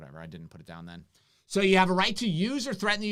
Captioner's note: mumbles